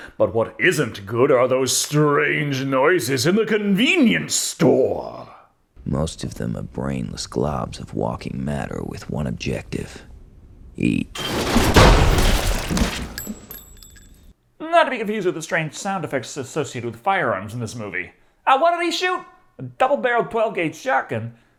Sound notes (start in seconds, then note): 11.2 gunshot; 13.2 casing hits floor with a ting